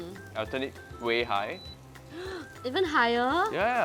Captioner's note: gasps